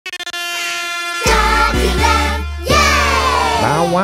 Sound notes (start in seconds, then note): 0.1 horn blowing